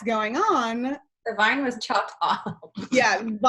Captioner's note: laughs